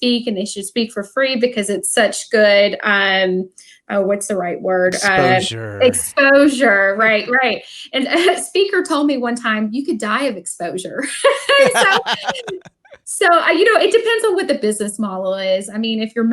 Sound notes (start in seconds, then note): 11.5 laughs